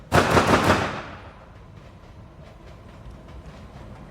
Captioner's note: gun firing